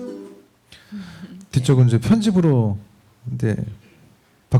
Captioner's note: speaking korean